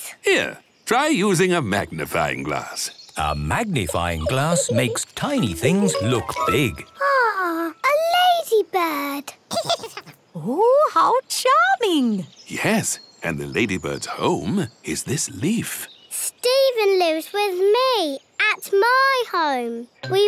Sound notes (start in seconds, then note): 9.5 giggles